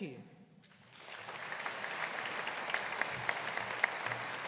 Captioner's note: audience applauding